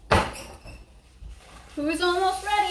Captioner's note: door banging